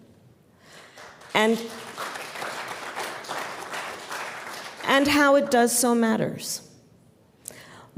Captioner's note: applause